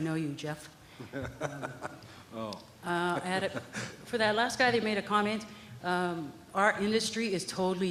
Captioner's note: laughter